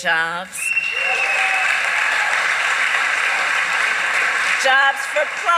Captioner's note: applause